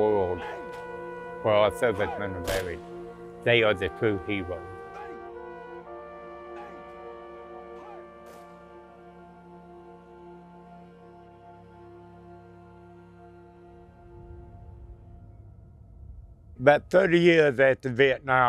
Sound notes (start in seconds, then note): 4.2 gunshots, as part of a 21-gun salute